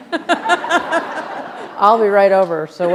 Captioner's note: laughter